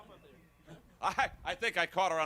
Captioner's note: crowd chatter